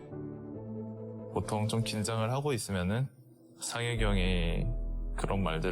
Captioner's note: Gamayusi speaking Korean